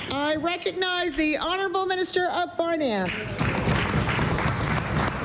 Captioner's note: applause